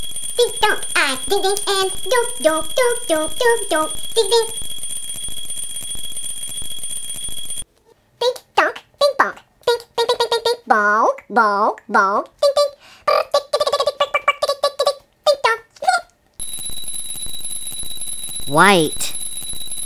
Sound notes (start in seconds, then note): 4.7 ringing; 16.4 ringing